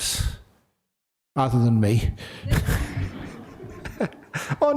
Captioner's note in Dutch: lachen